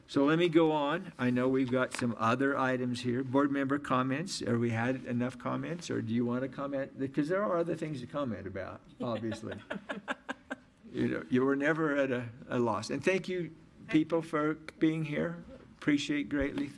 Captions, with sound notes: so let me go on, I know we've got some other items here. Board member comments, or we had enough comments or do you want to comment? Because there are other things to comment about, obviously. (audience laughs) You know, you are never at a loss and thank you people for being here, appreciate greatly,